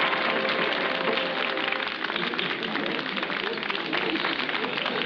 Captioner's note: music ends, applause continues